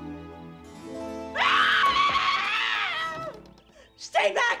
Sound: screaming

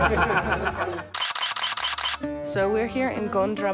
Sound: laughing; camera shutter clicking

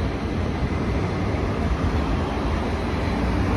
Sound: tram and bus sound

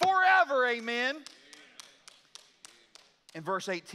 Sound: congregation applauds

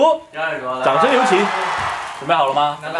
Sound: applause

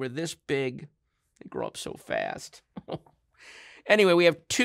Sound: chuckles

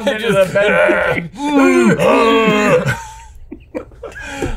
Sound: laughs; both groans; both grunts; all laugh

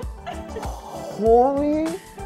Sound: laughing

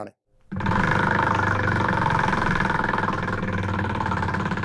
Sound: wheel clanking

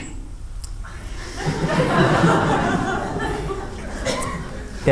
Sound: laughter

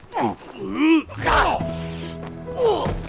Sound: bone cracking; dramatic piano

